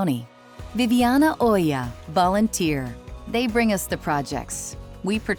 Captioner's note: speaking in Spanish